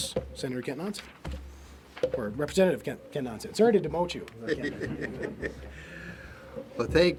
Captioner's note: laughs